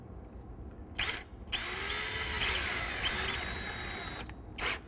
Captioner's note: drill whirs